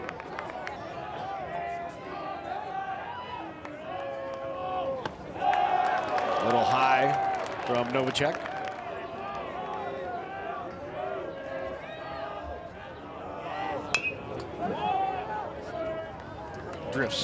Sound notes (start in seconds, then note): 5.7 crowd cheers; 13.9 bat dings